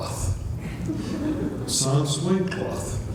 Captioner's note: laughter